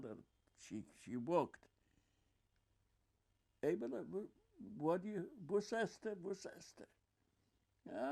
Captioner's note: yiddish